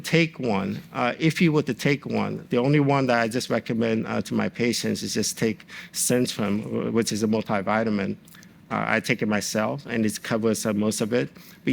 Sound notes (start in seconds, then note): none